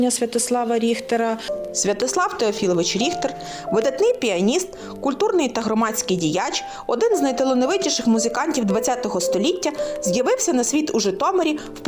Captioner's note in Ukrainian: звучить фрагмент запису на аудіогіді